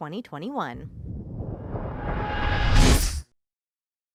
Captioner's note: logo swoosh